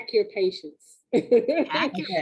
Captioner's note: laughing